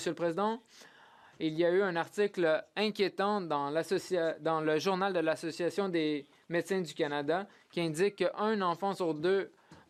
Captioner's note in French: voix de l'interprète